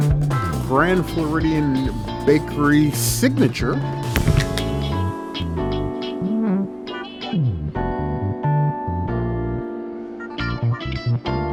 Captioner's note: thud